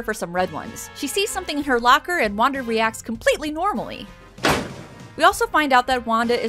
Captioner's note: slam